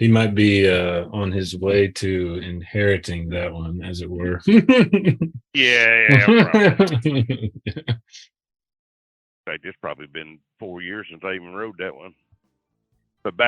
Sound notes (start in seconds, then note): 4.3 man laughing; 8.6 man chuckling